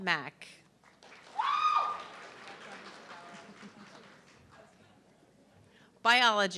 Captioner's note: audience clapping and cheering